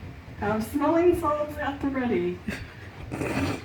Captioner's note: snort